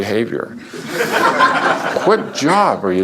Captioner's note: laughter